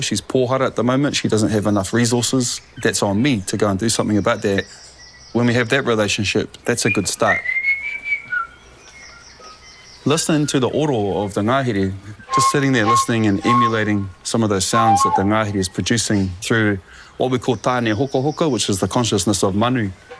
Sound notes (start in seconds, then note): 6.8 whistling; 8.6 bird calls